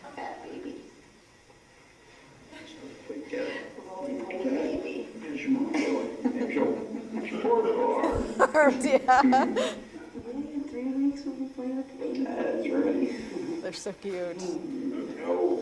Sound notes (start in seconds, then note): 8.0 laugh